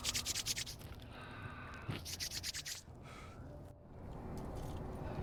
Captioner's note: Shamika blows on hands